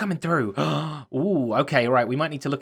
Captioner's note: gasps